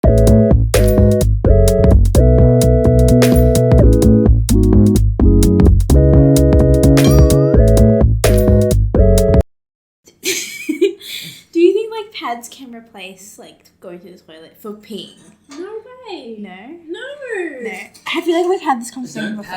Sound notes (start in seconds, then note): 10.1 giggles